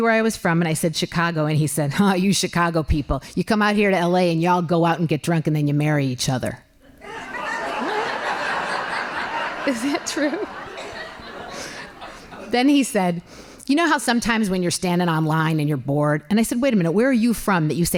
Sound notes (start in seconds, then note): 6.9 laughing